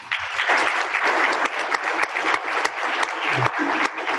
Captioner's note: applause